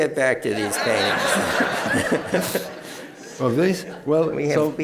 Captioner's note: laughter